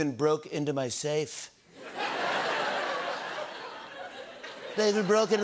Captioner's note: laughter